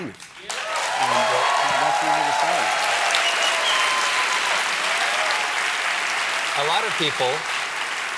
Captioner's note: applause